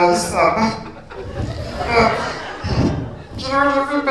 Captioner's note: laughter